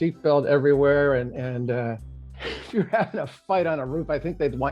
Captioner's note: laughing